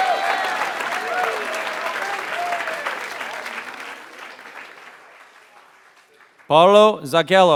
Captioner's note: applause